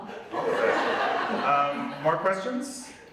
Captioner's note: audience laughs